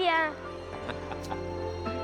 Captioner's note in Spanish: risas